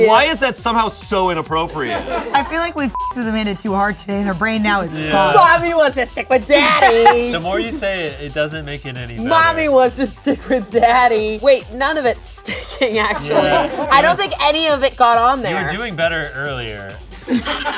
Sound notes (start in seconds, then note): 2.3 crew laughing; 2.9 beep; 12.3 laughs